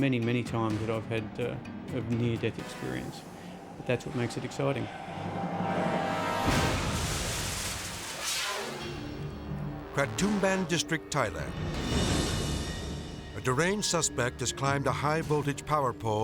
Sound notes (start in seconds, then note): 3.8 truck crashes; 4.8 tense music; 8.0 air whooshes